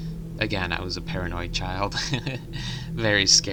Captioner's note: chuckles